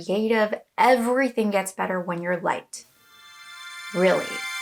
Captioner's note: shimmer sounds